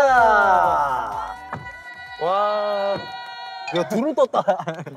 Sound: passionate cheers

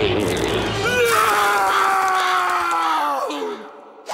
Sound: Lynn Sr. screaming

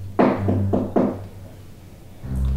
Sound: knock

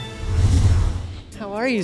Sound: whoosh

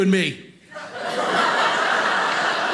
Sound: audience laughing

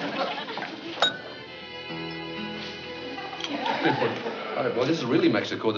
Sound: bell dings weakly

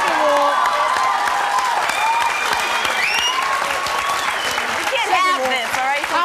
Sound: audience cheering

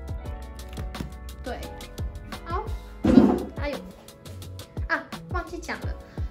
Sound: bump

